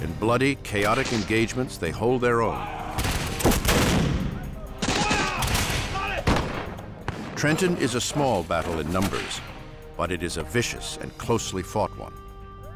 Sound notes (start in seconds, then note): 3.7 soldiers shouting; 4.7 gunshots firing